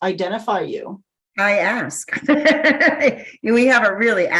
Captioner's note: chuckles